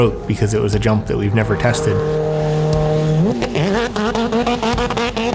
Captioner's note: car engine roaring